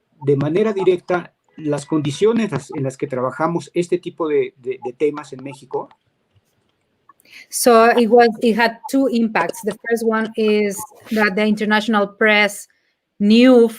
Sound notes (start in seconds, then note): 2.3 speaking in Spanish